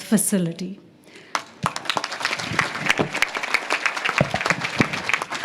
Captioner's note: audience claps